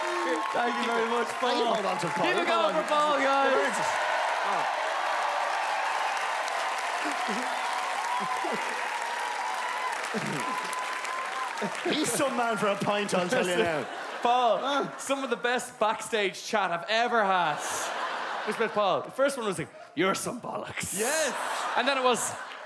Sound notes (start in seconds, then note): 4.8 laughing, crowd cheerin